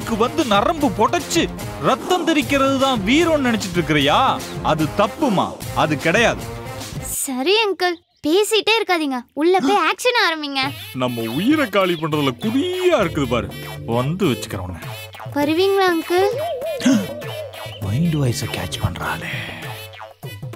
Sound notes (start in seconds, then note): 16.2 gasping